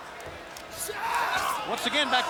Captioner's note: Rey Jr yelling